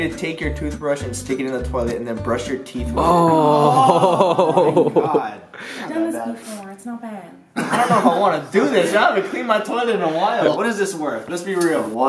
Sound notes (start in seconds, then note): 7.6 laughter